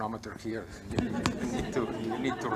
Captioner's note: laughter